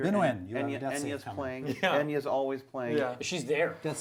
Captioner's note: all chattering